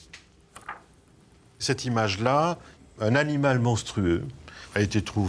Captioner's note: French spoken audio